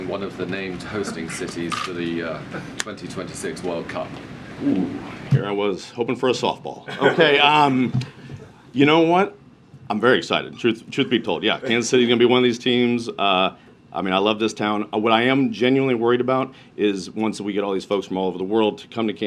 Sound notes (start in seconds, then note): 6.8 laughter